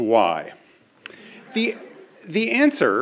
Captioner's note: crowd laughing